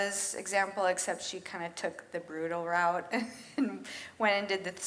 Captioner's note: laughs